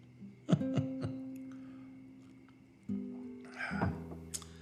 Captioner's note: man laughing